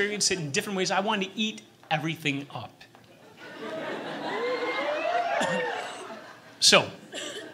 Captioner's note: audience giggles, cheers suggestively